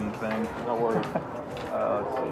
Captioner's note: laughs